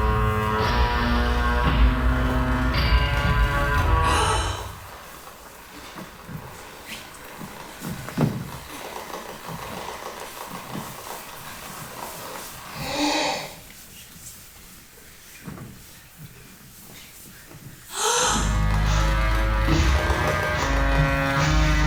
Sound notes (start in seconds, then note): 4.1 woman gasps; 5.1 metal rattling; 12.8 woman gasps; 17.9 woman gasps; 18.2 brooding music; 18.4 metal rattling